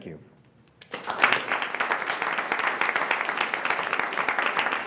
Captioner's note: attendees applauding